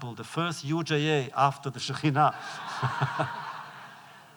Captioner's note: laughter